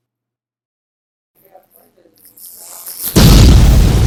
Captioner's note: hair rubbing against microphone